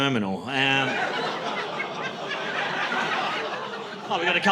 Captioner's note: laughter